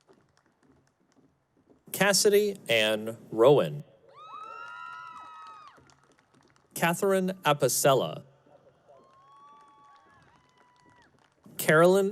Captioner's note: cheering